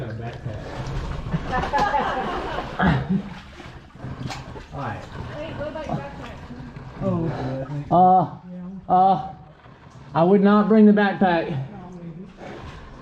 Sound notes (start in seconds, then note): 1.4 laughing